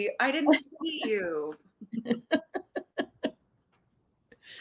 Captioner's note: laughing